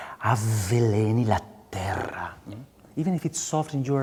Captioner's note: speaking in a foreign language